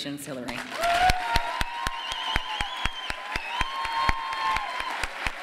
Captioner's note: applause and cheers